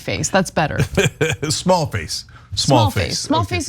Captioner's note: laugh